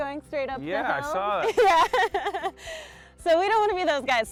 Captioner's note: laughs